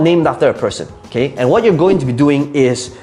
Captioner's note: air whooshing